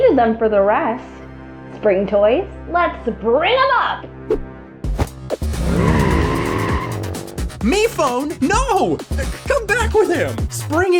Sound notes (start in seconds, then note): 4.3 thud; 5.4 vroooom